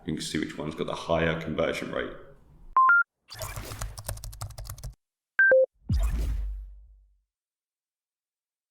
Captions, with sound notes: and you can see which ones got the higher conversion rate. (tech beep) (typing) (tech beep)